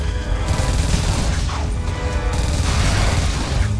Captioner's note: guns blasting